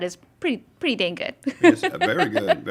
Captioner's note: laughing